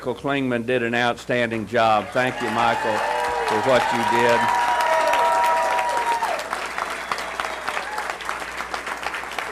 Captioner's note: cheers and applause